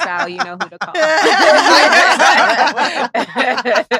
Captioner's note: all laughing